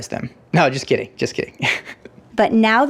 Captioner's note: laughs